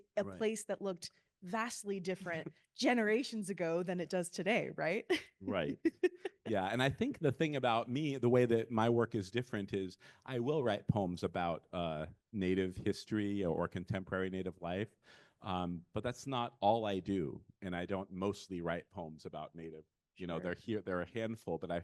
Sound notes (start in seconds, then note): 5.5 laughing